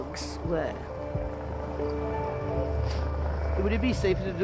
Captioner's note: boat droning; pensive music